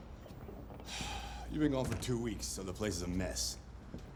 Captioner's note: sigh